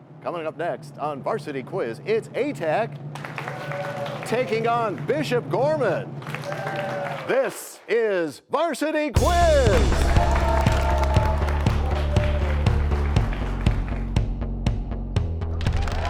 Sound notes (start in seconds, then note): 3.1 cheers and applause; 9.8 crashing sound